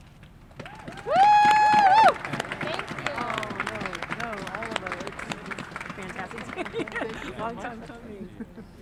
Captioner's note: clapping